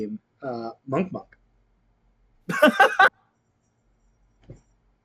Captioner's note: laughs